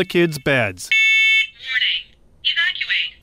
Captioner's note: smoke alarm blaring; recorded Woman's Voice